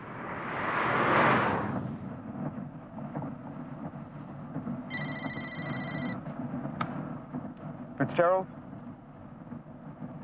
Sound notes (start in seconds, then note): 4.9 phone ringing